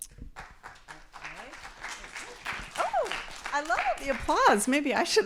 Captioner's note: applause